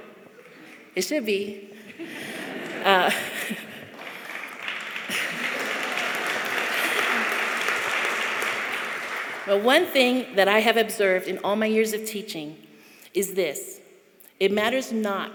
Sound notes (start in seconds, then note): 4.8 chuckling